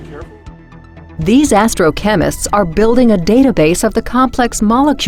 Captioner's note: voiceover